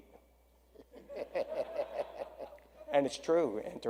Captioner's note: audience laughs